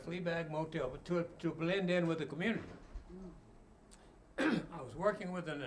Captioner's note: clears throat